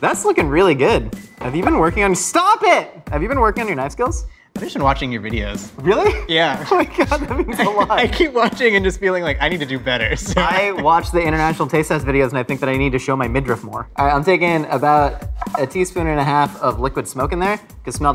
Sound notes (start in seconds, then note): 2.2 beeping